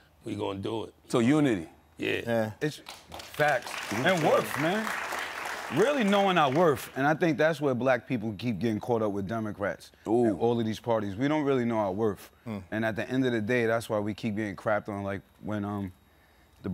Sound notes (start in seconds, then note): 5.6 audience clapping